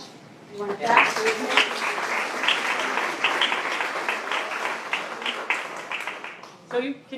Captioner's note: applause